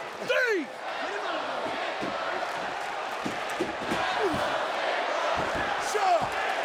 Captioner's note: audience applauding and chanting